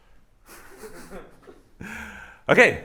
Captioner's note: laughter